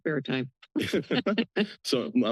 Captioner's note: laughter